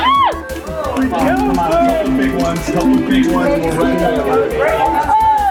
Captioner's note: buttons mashing